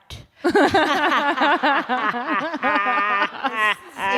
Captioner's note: laughter